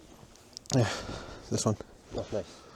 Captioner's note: sighs